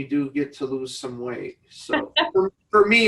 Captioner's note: laughs